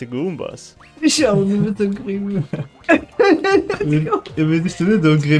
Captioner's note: laughs